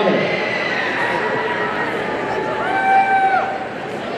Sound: audience cheering

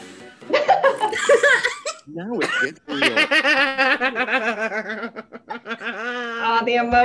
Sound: everyone laugh

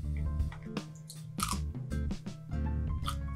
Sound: crispy Sound

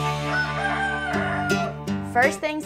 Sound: rooster crowing

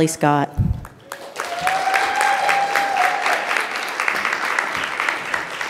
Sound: audience applauds

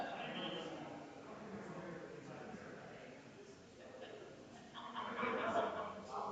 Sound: people chattering distantly continues

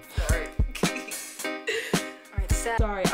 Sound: laughter

